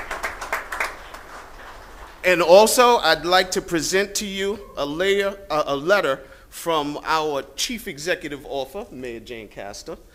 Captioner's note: applause